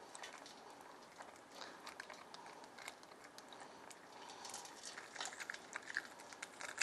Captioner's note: tearing pomegranate